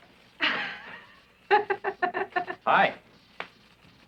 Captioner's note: giggling